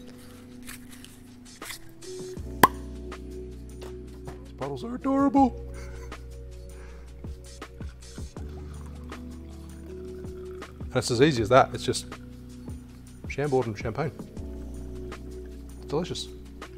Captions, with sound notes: (cork pops) These bottles are adorable. (chuckles) (liquid splashing) And it's as easy as that. It's just Chambord and champagne. Delicious.